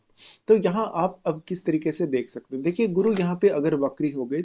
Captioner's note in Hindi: नाक से की जाने वाली आवाज़